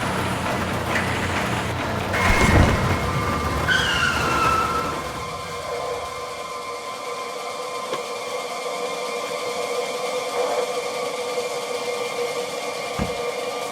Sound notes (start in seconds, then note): 3.4 tires screeching; 9.9 suspenseful music